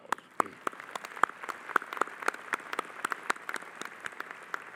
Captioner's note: audience applauding